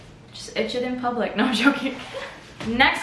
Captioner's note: giggles